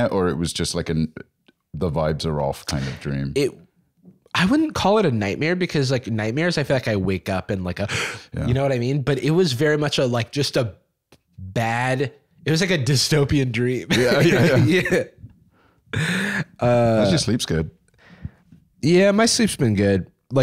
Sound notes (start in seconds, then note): 7.9 gasps